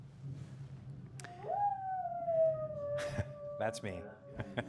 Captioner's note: person making howling sounds